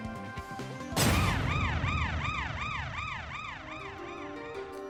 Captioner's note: siren rings